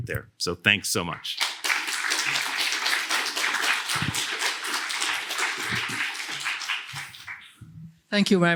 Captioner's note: applause